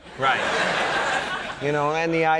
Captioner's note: audience laughing